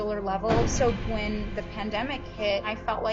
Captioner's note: bang